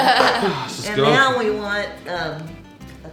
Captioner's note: laughing